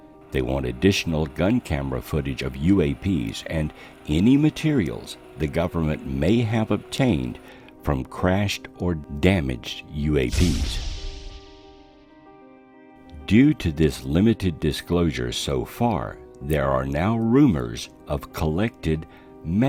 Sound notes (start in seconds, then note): 10.0 energized music; 10.3 craft booming